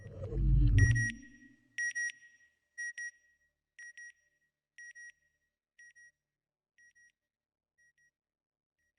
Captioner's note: satellite beeping